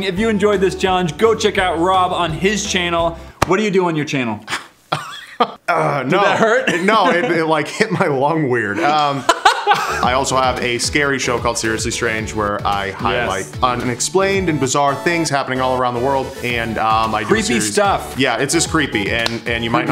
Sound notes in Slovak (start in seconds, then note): 4.9 smiech